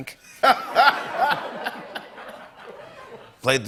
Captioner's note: laughter